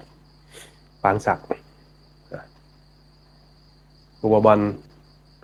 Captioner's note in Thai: เสียงสูดหายใจ